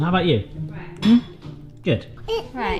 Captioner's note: dishes clanking